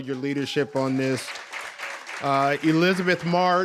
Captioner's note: audience applauds